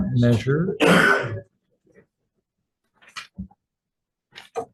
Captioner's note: coughs